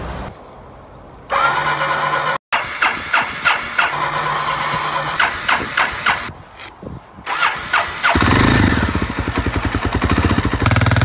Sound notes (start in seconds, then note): 1.3 ignition sounds